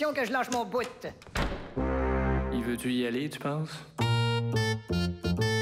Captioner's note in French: Claquement de porte